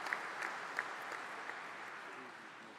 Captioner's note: applause